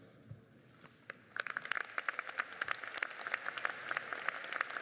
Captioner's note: applauding